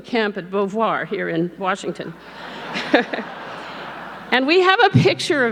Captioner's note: laughs